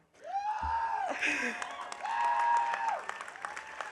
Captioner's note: audience cheering